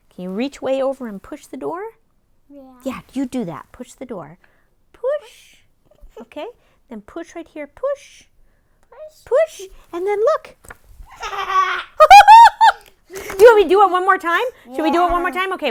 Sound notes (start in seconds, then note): 11.2 laughing